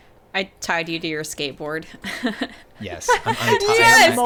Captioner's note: chuckling